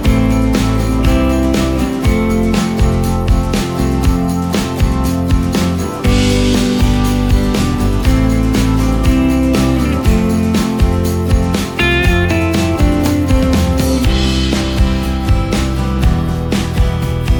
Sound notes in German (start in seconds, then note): 10.1 glocke